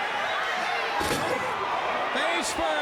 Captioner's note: head banging